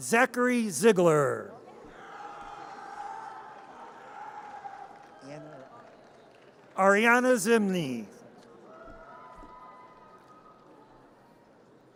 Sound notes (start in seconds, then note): 1.9 audience cheers; 8.7 audience cheers